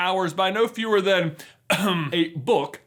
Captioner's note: ahem